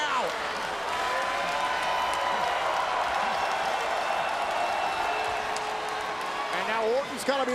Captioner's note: applause